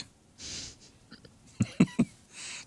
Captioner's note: laugh